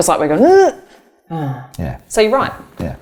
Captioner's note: groaning